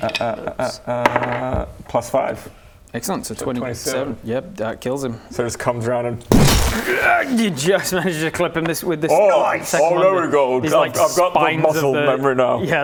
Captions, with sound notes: uh uh uh uh uhhhh +5 Excellent so 27 yeah that kills him so just comes round and *BOOF!* *hrrgh* you just manage to clip him - with this second one - Nice! - Oh there we go, I've got the muscle memory now - these like spines of the